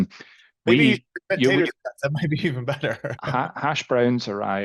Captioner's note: chuckles